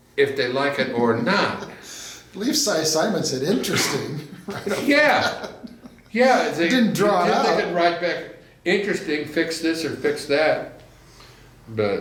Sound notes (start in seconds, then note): 3.5 laughs